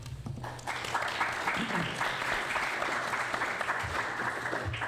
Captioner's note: applause